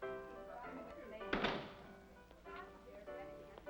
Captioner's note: door closes; piano plays faintly